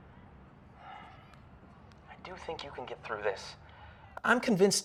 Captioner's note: sighs